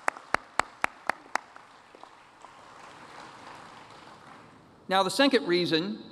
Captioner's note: applause